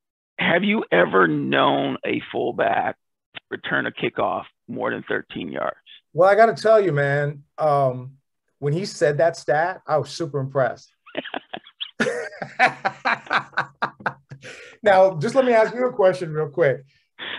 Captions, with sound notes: have you ever known a full back return a kickoff more than 13 yards? >> Well, I got to tell you, man, when he said that stat, I was super impressed [laughter]. Now, just let me ask you a question real quick.